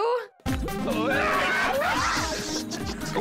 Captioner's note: cheering